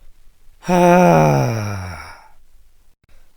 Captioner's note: longer sigh